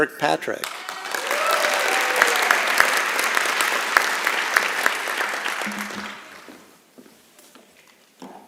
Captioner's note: applause and Cheering